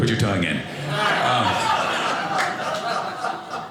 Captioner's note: audience laughing